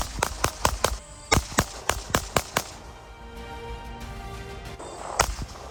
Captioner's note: gunshot